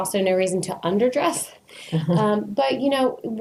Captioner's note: laughs